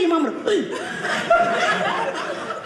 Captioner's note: audience laughing